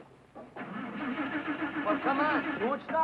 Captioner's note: car revving